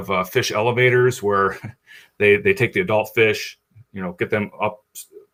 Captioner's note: chuckles